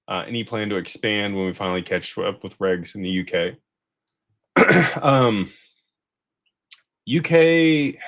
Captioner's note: clears throat